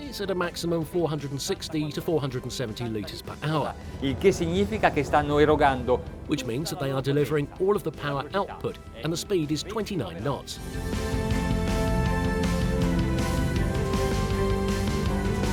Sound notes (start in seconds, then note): 4.3 speaking in a foreign language; 11.3 suspenseful upbeat music